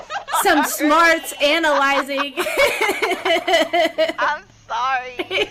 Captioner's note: laughter